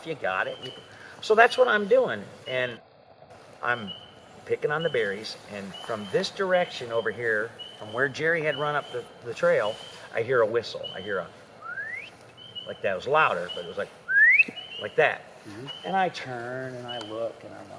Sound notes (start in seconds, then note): 11.6 whistle; 14.0 whistle